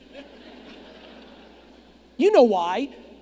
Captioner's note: audience laughing